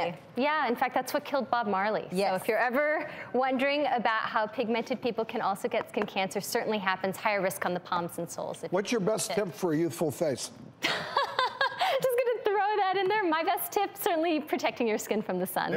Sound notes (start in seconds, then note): 10.8 laughs